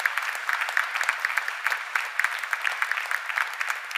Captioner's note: cheers and applause